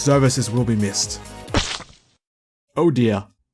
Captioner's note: splat sound